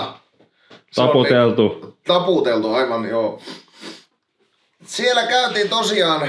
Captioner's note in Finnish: niiskuttaa